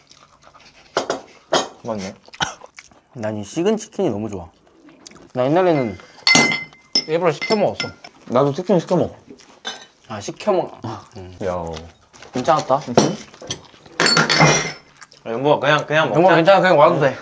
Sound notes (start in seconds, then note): 6.2 clang